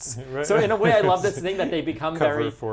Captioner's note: chuckles